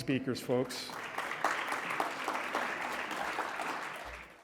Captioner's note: congregation clapping